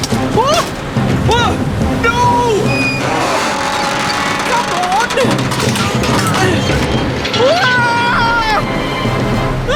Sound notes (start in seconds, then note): 0.0 door Bangs; 1.9 straining